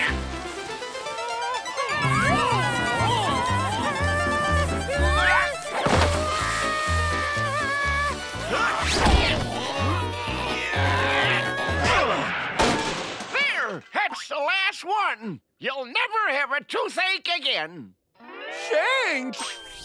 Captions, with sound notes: [groaning] [grunting] [groaning] [grunting] There! That's the last one. You'll never have a toothache again. Thanks.